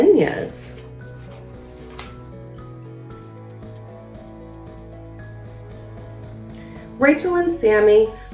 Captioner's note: uplifting instrumental music; pages shuffles